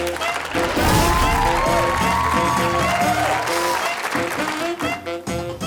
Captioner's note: upbeat music; audience applaud and cheer